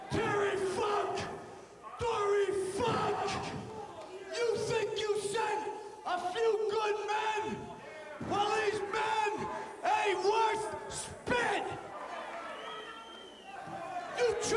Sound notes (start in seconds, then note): 2.5 crowd chatter